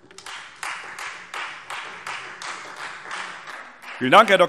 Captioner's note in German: Beifall Freie Demokraten